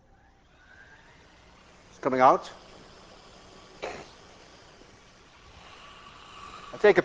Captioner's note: air hissing